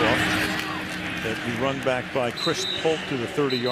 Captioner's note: whistle